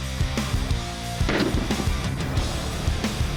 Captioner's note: heavy metal music; slow motion gun shot; heavy metal music